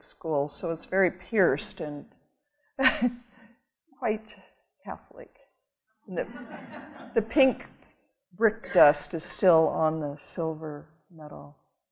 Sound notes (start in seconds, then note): 6.3 audience laughing